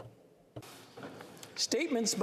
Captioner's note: speaking French